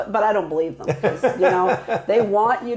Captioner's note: laughing